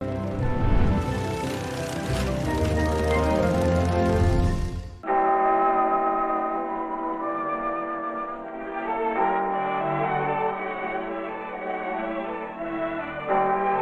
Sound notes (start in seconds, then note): 5.0 bell tolling; 5.0 mellow music